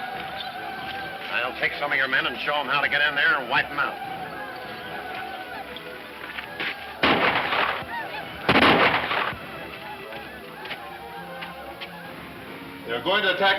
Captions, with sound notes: - I'll take some of your men and show them how to get in there and wipe them out. (more gunshots) - They are going to attack us from above sheriff.